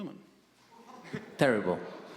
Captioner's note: audience murmuring